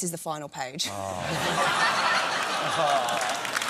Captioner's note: laughter